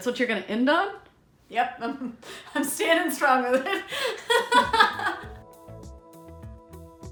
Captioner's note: laughs